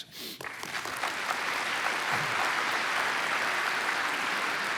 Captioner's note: applause